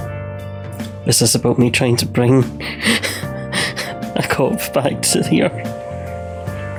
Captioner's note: laughs